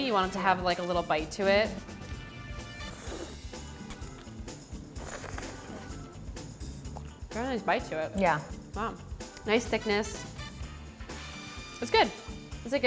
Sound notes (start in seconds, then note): 3.1 slurping